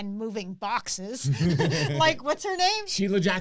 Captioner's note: laughing